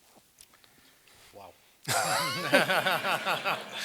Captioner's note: laugh